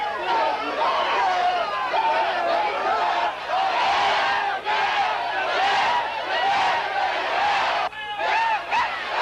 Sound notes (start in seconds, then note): 3.2 shouting in unison